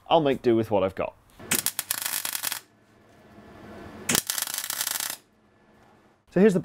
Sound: welding crackles

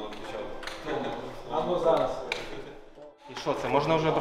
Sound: chatter

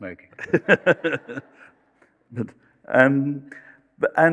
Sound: laughter

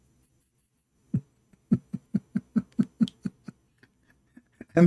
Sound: Ketawa

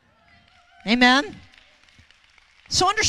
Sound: audience applauds

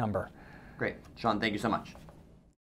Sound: voiceover

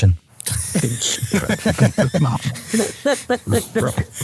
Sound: group laughing

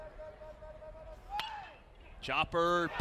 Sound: crack of bat

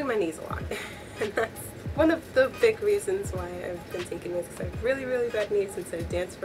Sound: laughs

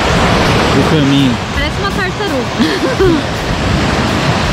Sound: laughs

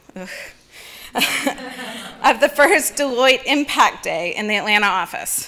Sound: audience laughing

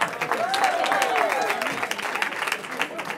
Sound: cheering

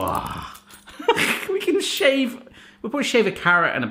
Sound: sniggers

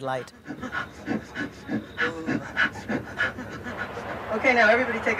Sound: panting

